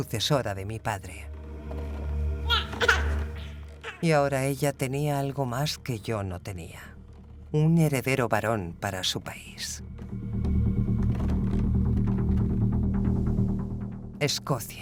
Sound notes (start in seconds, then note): 2.4 baby cries; 9.8 dramatic music